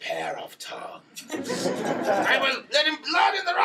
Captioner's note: laughter